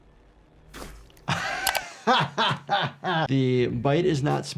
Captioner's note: laughs